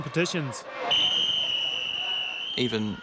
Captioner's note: whistle blows